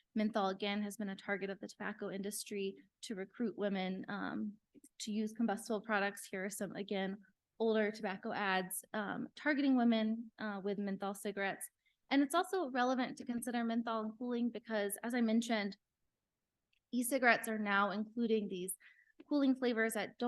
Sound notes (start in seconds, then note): none